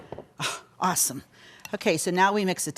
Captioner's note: sighs